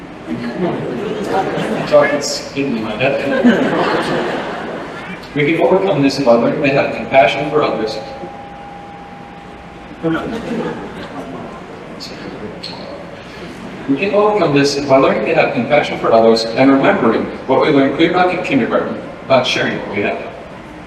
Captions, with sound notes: (laughter) The chocolate's getting in my head. (laughter) We can overcome this by learning to have compassion for others. (sustained bell tone) (laughter) We can overcome this by learning to have compassion for others, and remembering what we learned way back in kindergarten about sharing what we have.